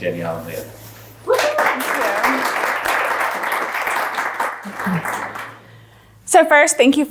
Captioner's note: audience applauds